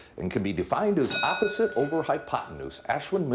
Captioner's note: bell dinging